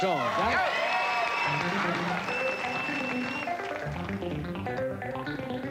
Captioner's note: audience cheering; bright music